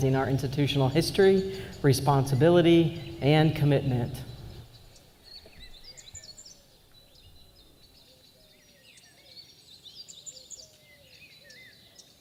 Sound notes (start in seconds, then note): 5.3 birds chirping